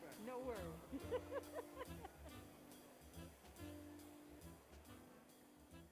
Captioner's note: laughs; light jazz music fades